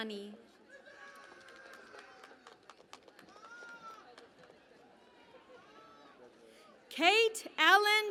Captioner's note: cheering and Applause